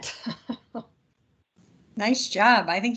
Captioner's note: laughs